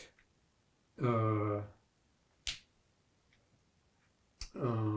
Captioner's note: pauses 6 seconds